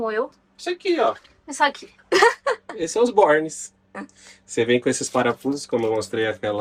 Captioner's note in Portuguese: risadas